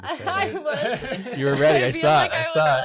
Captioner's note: laughs